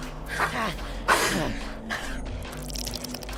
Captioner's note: panting